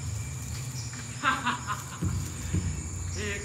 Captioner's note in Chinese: 笑声